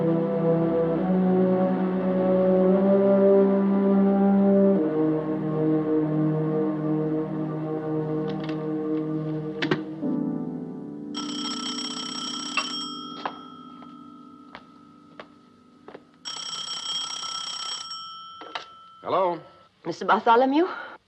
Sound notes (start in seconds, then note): 11.1 phone ringing